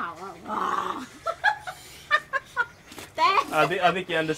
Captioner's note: growls, laughs